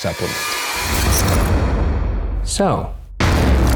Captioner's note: air whooshing